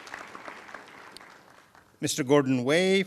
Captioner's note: applause